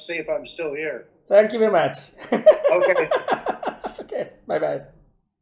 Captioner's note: laughs